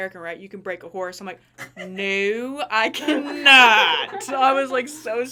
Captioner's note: everyone laughing